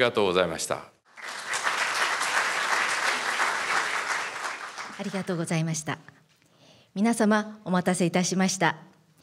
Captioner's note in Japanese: 拍手